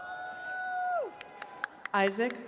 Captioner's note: attendees cheering